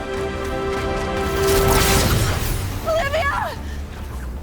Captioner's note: sharp zapping